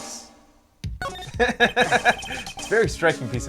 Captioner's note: laughs